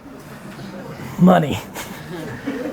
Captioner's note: audience chuckling